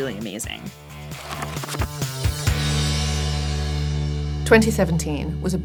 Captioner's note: upbeat music; pages flipping